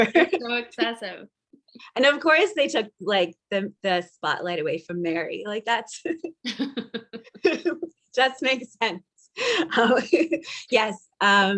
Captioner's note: laugh